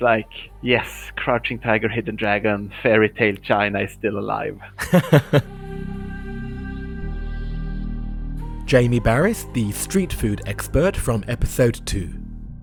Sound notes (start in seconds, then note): 4.7 voiceover